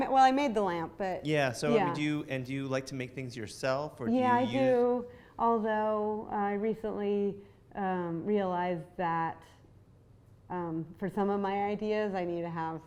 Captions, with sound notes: - Well I made the lamp, but-- - [Voiceover] Yeah, so and do you like to make things yourself, or do you use-- - Yeah, I do, although I recently realized that, for some of my ideas, I need to have